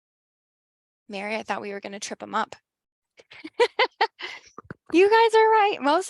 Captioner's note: laughs